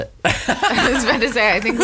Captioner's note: laughs